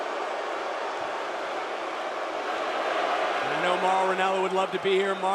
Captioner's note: crowd chatter